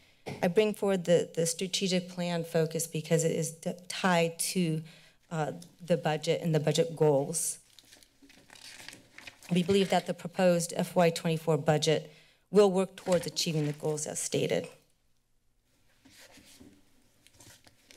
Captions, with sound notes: I bring forward the strategic plan focus because it is tied to the budget and the budget goals. [papers flipping] We believe that the proposed FY24 budget will work towards achieving the goals as stated.